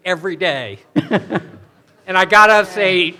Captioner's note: chuckling